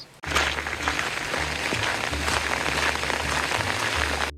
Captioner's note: water splashing